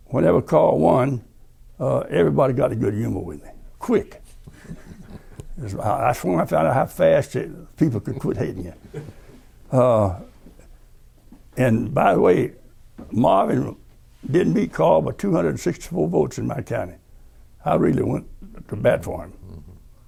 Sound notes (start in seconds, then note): 4.4 laughter